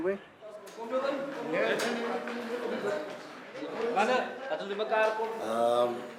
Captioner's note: speaking afrikaans